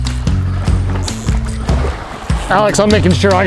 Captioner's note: water splashing